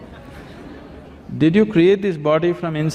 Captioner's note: laughter